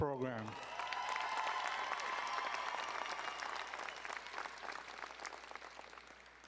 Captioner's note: audience cheering and applauding